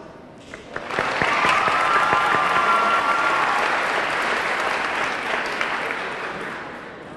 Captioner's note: audience clapping; audience cheering